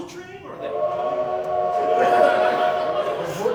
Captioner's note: train whistle